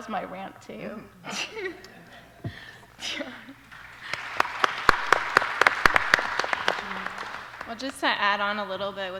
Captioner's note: applause